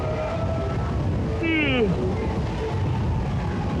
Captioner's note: yawn ends